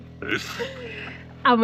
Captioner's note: laughs